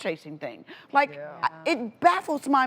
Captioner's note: women agreeing